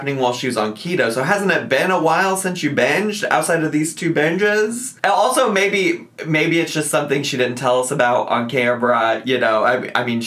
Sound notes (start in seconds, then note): none